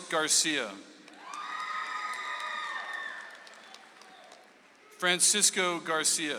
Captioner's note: audience applauds